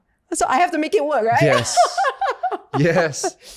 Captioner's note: laughs